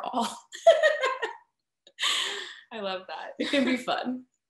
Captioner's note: laughing